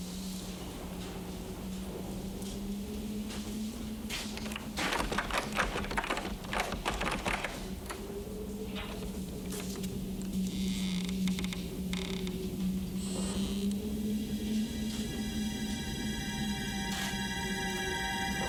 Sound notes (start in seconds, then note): 4.4 door handle rattling; 10.4 door creaking; 15.4 suspenseful music